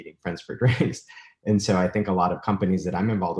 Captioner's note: chuckles